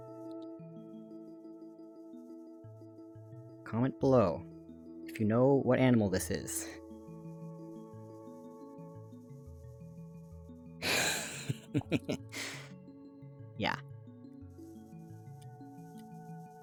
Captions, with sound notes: *serious Youtuber voice* Comment below... if you know what animal this is... *laugh* ... Yah...